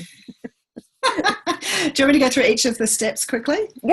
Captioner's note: laughs